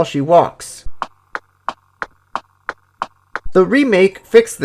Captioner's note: feetsteps sound